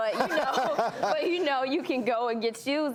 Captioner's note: laughs